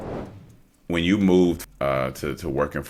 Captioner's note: graphic swooshing